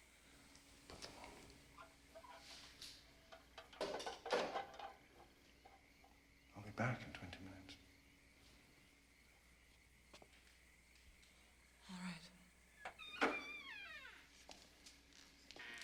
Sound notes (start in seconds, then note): none